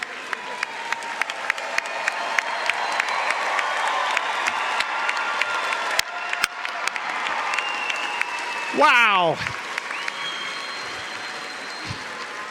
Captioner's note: cheering & Applause